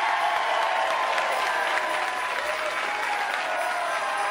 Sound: audience cheering and applauding; bells jingling

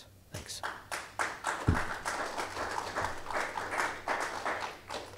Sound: audience applauding

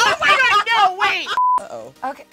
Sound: laughs; test beep

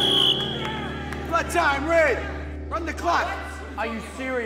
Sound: blows whistle

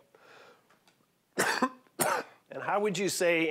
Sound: coughing

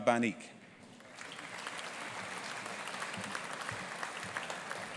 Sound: audience applauding

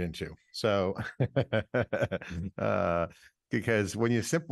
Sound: laughing

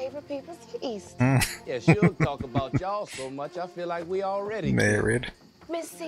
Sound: chuckling

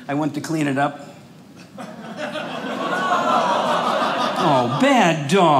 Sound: audience laughing

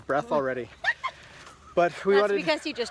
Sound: giggle

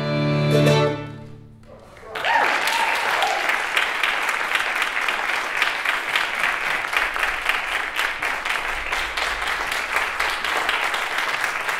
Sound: applause

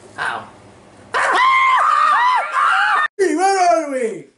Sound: shrill Screaming

